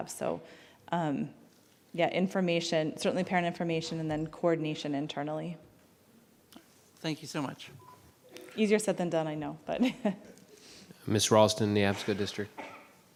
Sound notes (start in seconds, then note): 9.8 chuckling